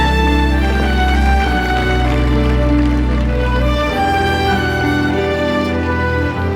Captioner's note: crowd clapping